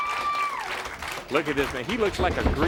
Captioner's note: crowd cheering